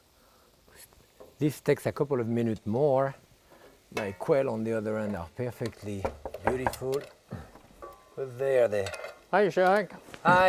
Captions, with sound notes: This takes a couple of minute more. My quail, on the other hand, are perfectly beautiful. (knuckles knocking) Who's there? - Hi, Jacques. - Hi.